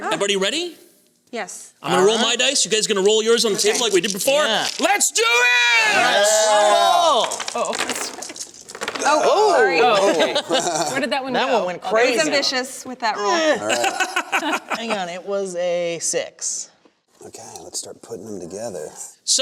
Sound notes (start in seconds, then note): 5.2 cheering; 7.0 dice rolling; 13.6 laughter